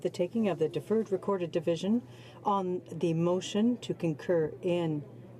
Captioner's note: speaking French